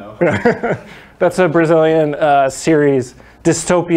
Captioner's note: laughs